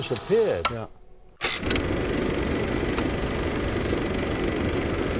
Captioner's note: film reel clicking